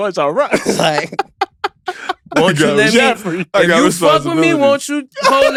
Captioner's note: laughing